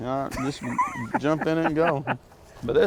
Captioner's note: laughs